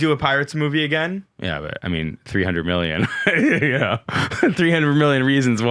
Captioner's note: laughs